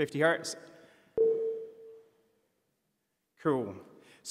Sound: tone played

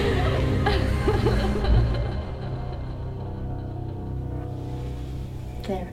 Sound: distorted sounds and score quiet

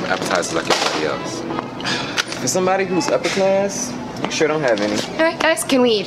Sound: sigh

